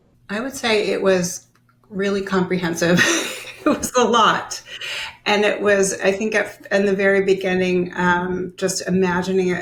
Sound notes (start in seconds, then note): 2.8 laughing; 2.8 laughs